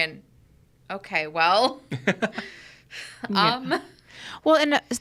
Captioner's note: chuckles